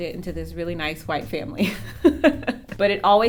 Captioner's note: laughs